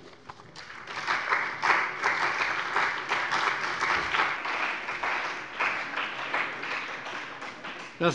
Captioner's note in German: Beifall bei dem BÜNDNIS 90/DIE GRÜNEN und der CDU